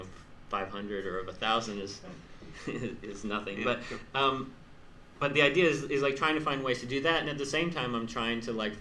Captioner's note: laughs